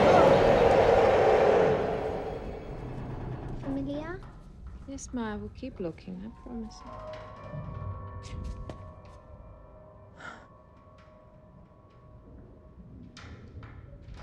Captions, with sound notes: (Mya speaking in foreign language) - Yes Mya, we'll keep looking I promise you. (eerie music) (Jane gasps) (Jane sighs) (eerie music)